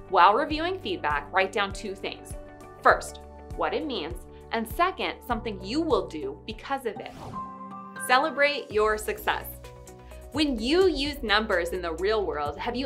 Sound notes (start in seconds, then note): 7.1 air whooshing; 7.2 upbeat music continues